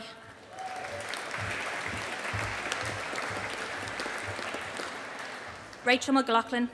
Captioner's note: audience applauding